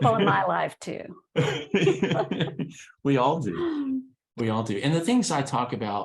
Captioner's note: laughs